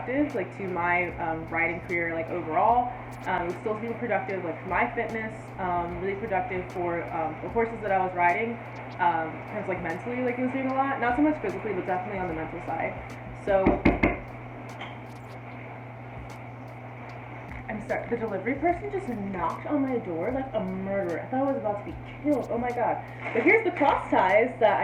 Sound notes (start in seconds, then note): 13.6 hard knocking on door